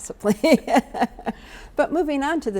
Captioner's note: laughs